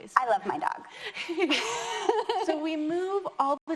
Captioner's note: laughs